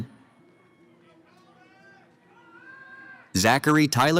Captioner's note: cheering